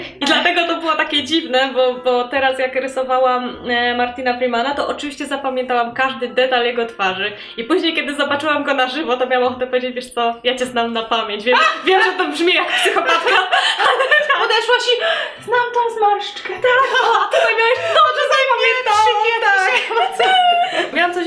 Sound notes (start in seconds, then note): 12.5 laughs; 20.8 laugh